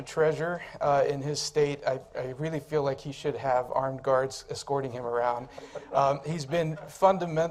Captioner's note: laughter